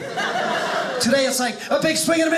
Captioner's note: audience laughing